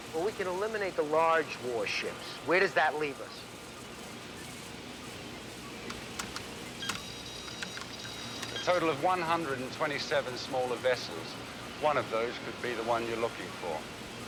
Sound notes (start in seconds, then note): 5.8 keys clicking